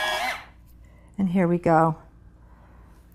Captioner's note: pencil sharper vibrating